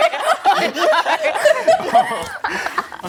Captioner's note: laughter